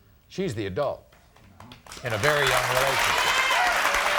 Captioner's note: audience claps